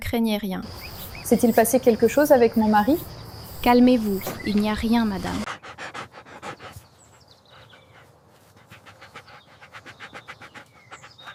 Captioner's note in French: halètement